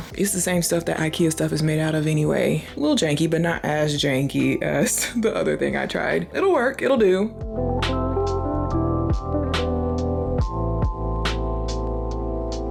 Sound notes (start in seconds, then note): 4.8 laughs; 7.5 light tranquil music